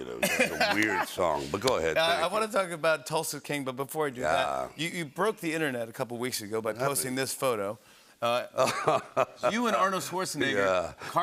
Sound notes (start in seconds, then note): 8.5 laughs